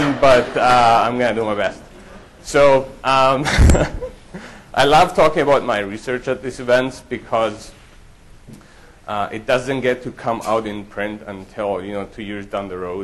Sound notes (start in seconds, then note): 2.7 laughs